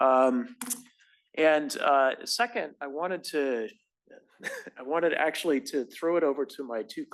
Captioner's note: cough